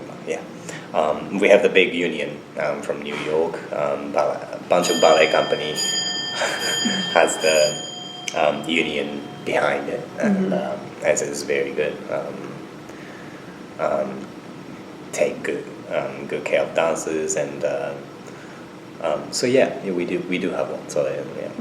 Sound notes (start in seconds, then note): 4.7 bell rings in the background